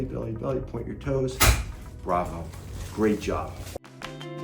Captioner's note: table clanking